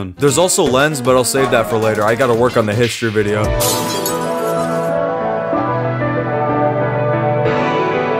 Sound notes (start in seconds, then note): 3.6 mirror breaks; 3.9 outro music